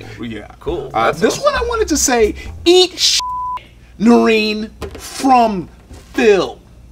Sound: beep

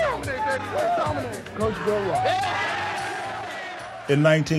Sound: cheering

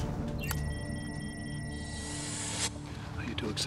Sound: beeping

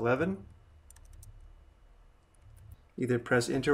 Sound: keyboard clanking

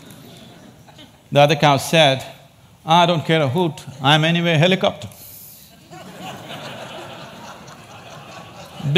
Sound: laughter

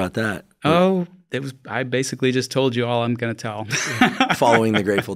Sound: laughs

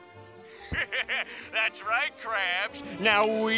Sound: laughing

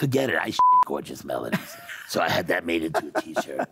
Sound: beep; laughing

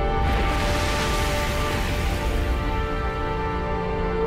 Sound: loud booming

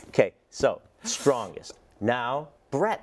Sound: laugh

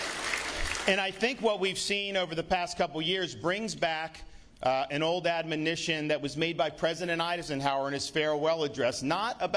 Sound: applause

